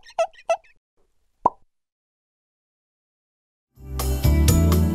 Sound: squeaking; pop

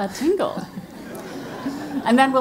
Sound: laugh

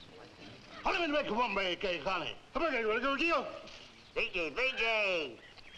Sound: people speaking in foreign language

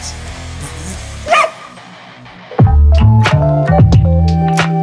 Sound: dog barking

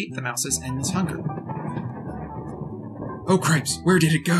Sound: more Ominous Thunder

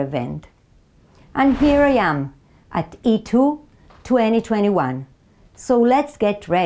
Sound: slide whooshes

